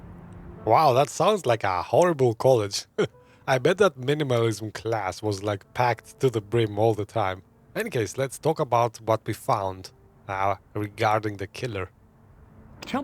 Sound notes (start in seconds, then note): 3.0 laughs